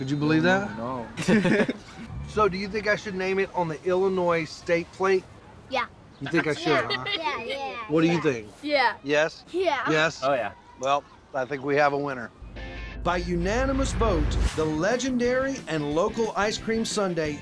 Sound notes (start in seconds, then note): 1.1 laughter